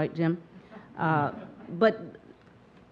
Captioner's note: audience chuckling